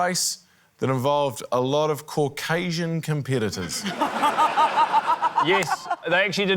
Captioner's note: laughter